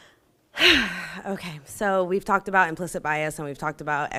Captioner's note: sighs